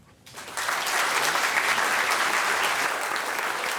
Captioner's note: applause